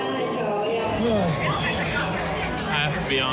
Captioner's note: groans